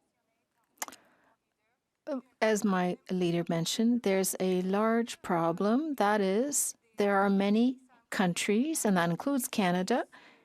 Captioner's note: speaking French